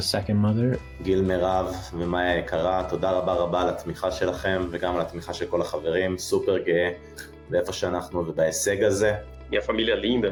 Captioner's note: non-english speech